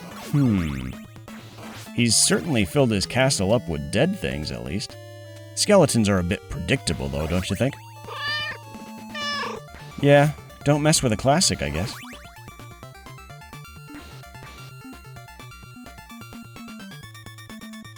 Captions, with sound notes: Hmm.... He's certainly filled his castle up with dead things, at least. Skeletons are a bit predictable, though, don't you think? (Meow) Yeah. Don't mess with a classic. I guess.